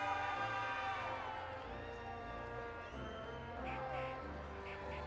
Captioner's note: audience applauding and cheering